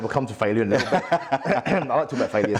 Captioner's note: laughs